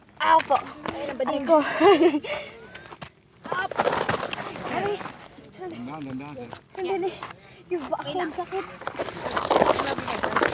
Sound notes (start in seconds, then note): 3.4 footsteps